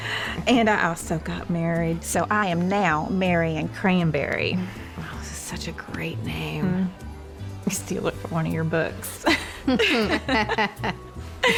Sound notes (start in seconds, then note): 4.7 says sarcastically; 9.2 both chuckling